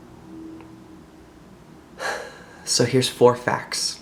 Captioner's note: breathe